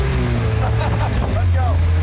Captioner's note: laughter